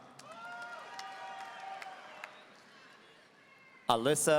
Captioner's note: audience cheering